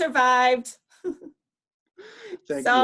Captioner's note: chuckles